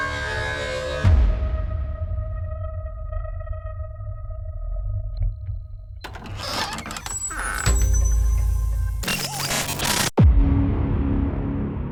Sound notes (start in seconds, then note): 6.0 loud creaking; 9.0 static buzzes